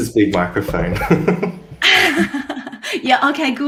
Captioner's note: chuckles